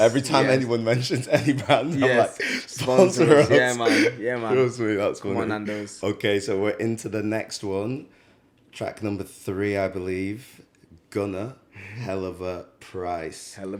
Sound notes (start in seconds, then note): 3.2 laughs